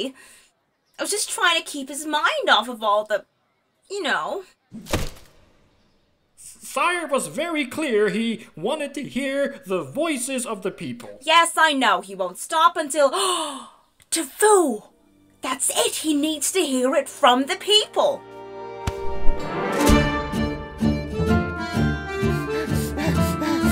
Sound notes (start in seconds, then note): 13.2 gasps